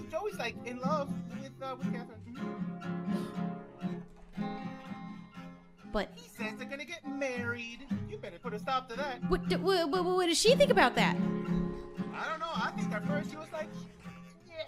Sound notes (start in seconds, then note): 3.0 gasp; 9.4 splutters